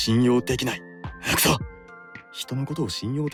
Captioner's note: agh!